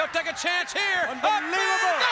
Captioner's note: crowd chatter; crowd cheering